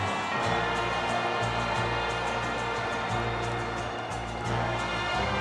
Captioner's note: audience jeering